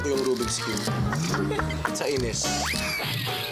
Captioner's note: cackling